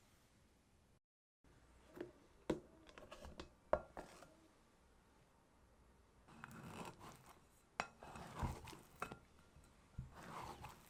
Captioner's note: folding